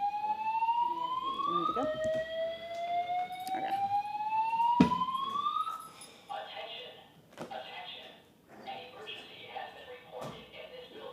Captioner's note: alarm sounding in building